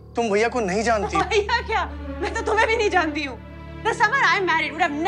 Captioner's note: Laughs